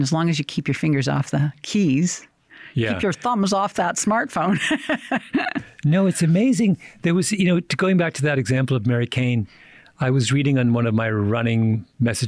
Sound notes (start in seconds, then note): 4.4 chuckles